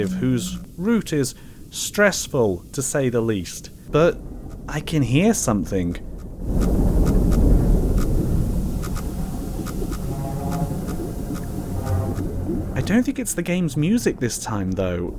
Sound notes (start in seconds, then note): 6.6 pulsating energy